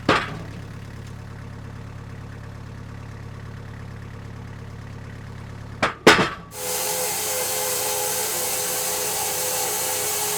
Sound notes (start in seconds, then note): 0.0 wood falling onto metal; 5.8 wood falling onto metal; 6.4 sawmill sawing